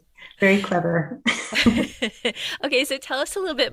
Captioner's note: laughter